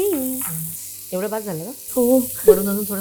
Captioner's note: chuckles